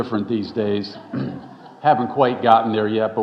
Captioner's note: audience chuckling